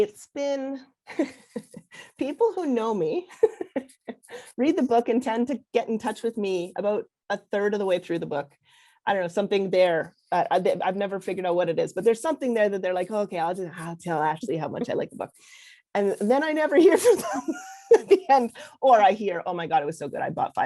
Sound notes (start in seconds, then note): 3.4 laughs